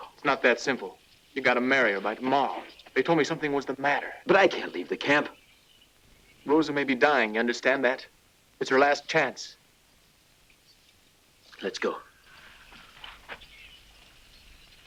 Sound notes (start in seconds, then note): none